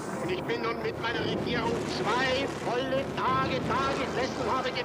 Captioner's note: person speaks German